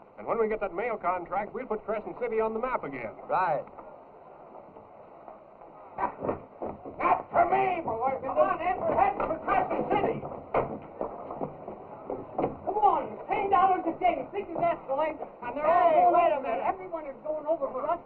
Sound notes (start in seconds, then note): 15.2 arguing